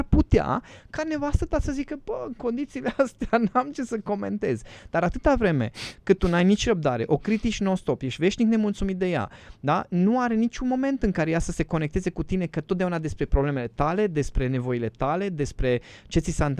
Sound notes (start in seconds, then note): 5.7 snort